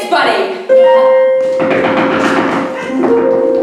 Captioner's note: loud door knocking